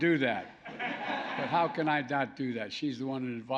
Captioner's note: laughter